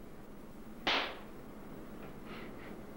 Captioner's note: loud clap